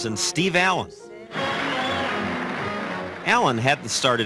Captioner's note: applause